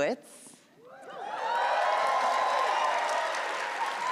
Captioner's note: applause